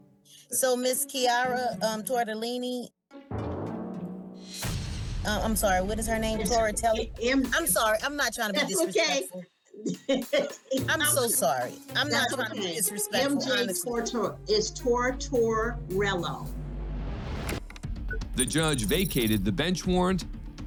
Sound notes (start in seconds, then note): 3.1 quirky music; 9.8 laughs